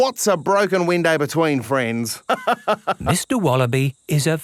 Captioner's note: laughs